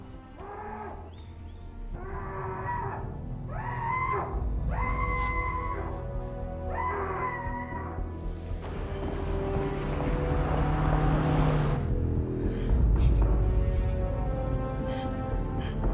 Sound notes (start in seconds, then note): 0.1 Paul screaming; 8.6 car engine whirring; 11.7 sobbing